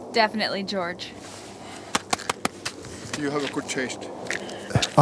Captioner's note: woman's Voice